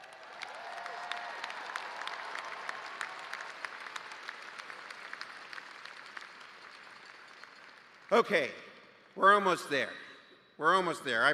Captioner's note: cheers and applause